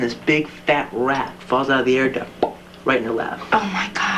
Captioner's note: plop